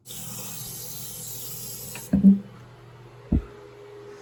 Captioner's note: water running